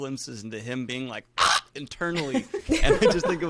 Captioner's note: screaming; all laughing